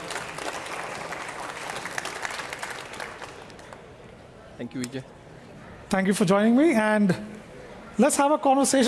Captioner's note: applause